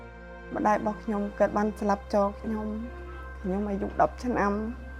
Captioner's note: speaking foreign language